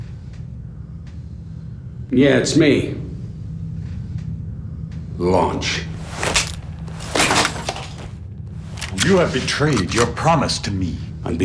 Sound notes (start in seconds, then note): 5.9 cracking